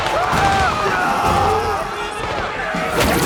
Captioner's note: soldiers screaming; gunshots popping